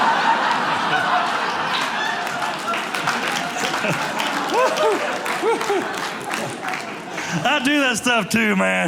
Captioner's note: audience cheering